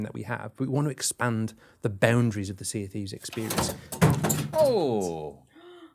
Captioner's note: clatter